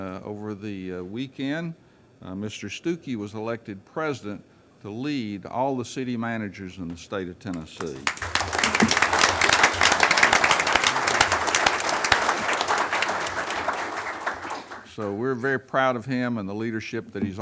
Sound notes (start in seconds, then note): 7.5 crowd applauds